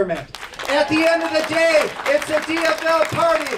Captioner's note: clapping and cheering